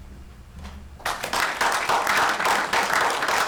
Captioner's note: applause